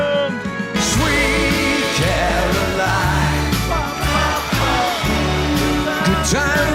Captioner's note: voice is dubbed in